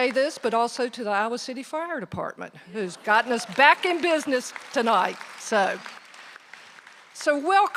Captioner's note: applause